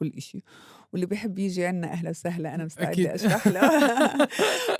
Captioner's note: both laughing